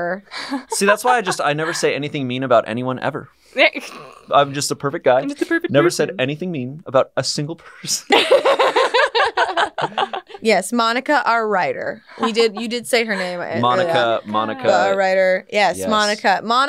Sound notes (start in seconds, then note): 7.8 all laughing